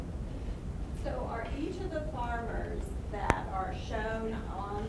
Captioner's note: voiceover